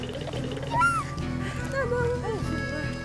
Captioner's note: panting